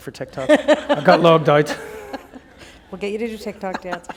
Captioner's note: laughter